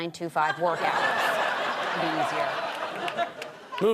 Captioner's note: audience laughter